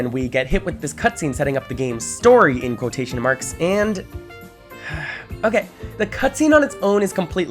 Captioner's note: sigh